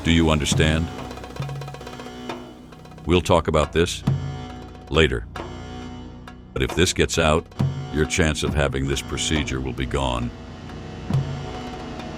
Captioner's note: thunder